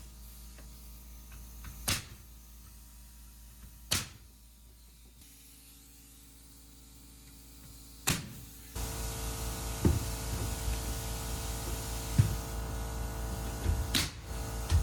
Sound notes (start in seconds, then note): 8.8 clippers buzzing